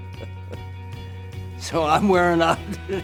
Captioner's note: laughs; laughs